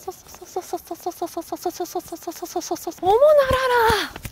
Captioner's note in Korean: 빵터진 선생님의 웃음 소리